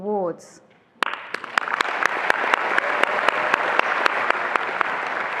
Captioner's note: attendees applauding